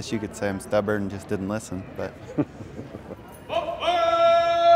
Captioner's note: father laughs